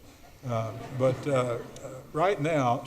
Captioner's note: audience laughs